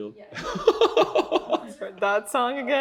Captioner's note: laughs